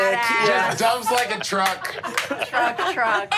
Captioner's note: clapping